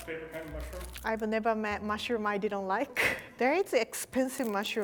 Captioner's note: chuckles